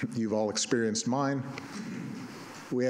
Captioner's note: none